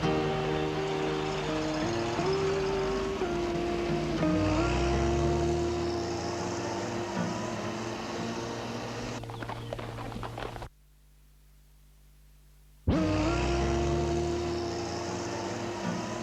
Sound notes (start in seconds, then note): 8.2 hooves clopping; 12.9 tender guitar music